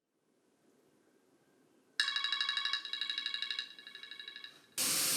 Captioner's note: alarm ringing